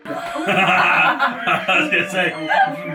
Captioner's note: laugh